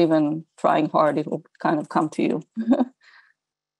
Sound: chuckles

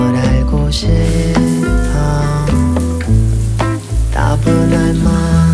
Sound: shower running

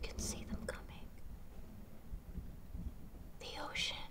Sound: thunder rumbles

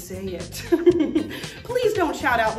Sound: laughter

